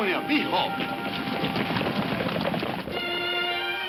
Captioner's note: speaking in a foreign language; hooves thumping; dramatic music playing